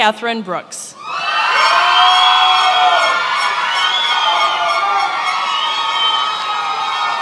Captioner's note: attendees applauding and cheering